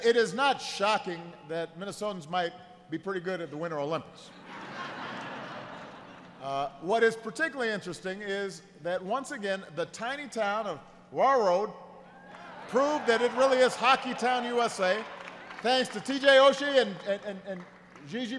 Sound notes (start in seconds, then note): 6.7 laughter